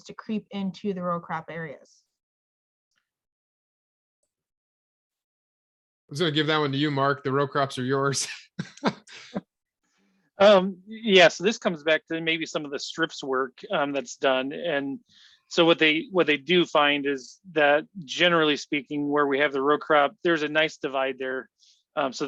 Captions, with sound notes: to creep into the row crop areas? - I was gonna give that one to you, Mark. The row crops are yours. (laughs) - Yes, this comes back to maybe some of the STRIPS work that's done. And so what they do find is that, generally speaking, where we have the row crop, there's a nice divide there.